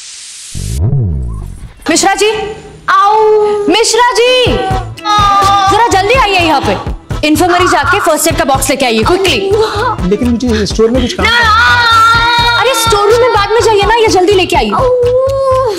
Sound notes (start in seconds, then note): 4.6 Aditi screaming; 11.2 Aditi screams loudly